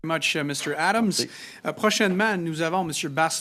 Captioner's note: speaking french